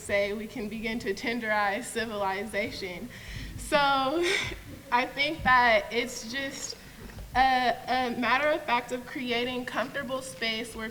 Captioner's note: laughs